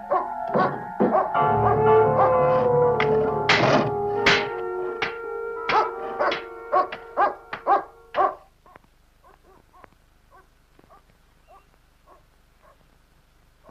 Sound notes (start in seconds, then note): 5.6 barking